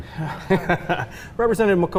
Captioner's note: laughing